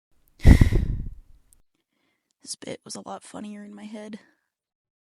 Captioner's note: sigh